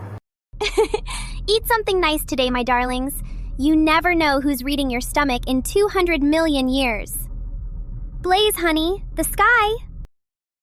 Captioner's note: laughs